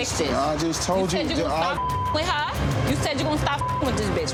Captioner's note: beep